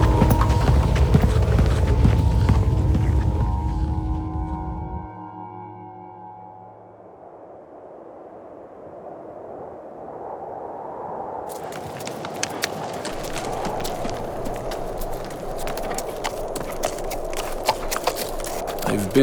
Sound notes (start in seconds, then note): 7.3 wind howling; 15.6 hooves clapping